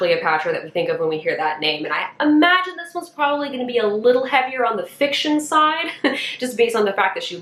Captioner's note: chuckle